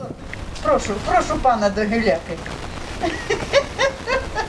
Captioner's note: laughs